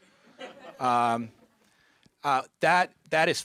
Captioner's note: audience chuckling